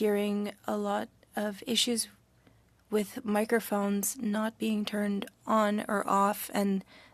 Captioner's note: speaking French